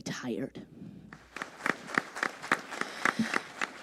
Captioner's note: applause